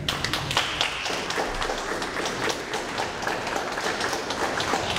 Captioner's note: audience applauds